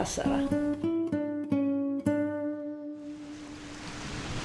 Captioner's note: waves crashing